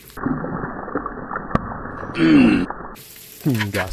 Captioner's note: Bacon explosion noises